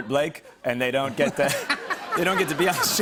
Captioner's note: laughter